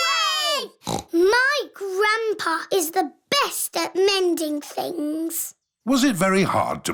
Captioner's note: snorts